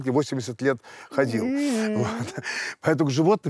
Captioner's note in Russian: Дудь жалобно скулит